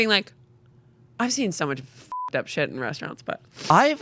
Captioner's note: beep